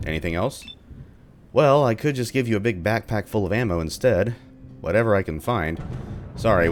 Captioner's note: thunder